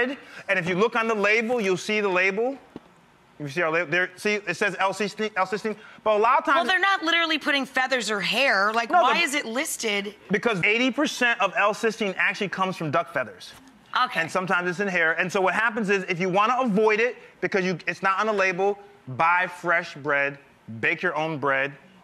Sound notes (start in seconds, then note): none